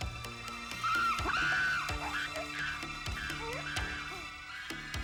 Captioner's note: animals squealing